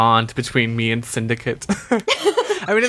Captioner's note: laughs